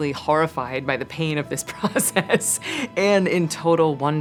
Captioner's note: laughs